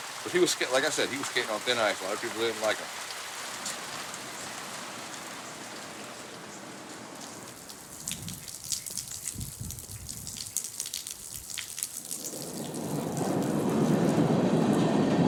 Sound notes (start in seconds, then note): 4.8 raining; 13.6 train sound